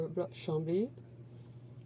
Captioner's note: speaking in french